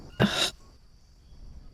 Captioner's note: sigh of frustration